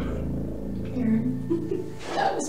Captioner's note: laughs